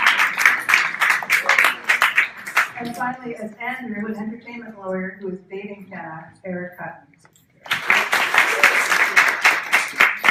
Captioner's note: cheering; cheering